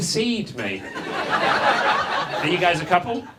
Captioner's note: audience laughs